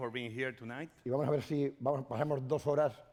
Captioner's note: speaking spanish